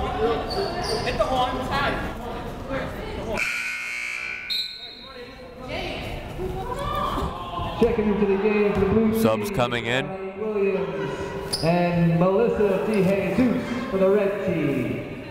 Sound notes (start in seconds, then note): 3.4 buzzer sounding; 5.0 whistle blowing